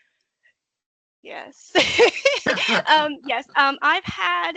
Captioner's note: laughing